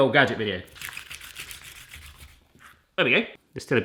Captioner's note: rubbing